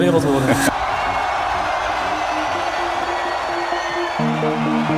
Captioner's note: crowd cheers